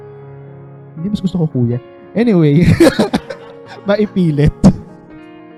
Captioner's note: laughs